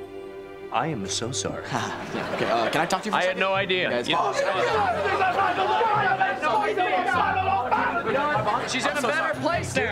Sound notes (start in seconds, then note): 4.1 arguing